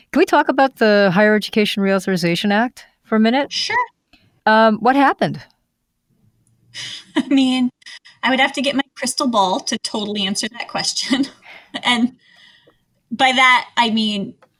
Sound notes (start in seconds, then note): 6.8 laughs